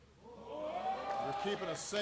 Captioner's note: applause